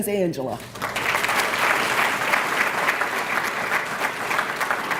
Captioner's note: applause